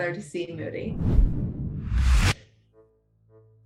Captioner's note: loud whooshing